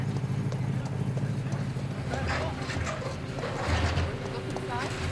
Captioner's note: people chattering